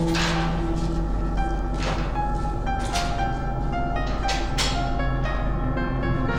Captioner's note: door closes; ominous music